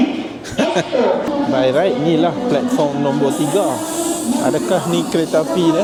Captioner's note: laugh